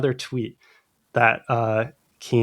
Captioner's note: uh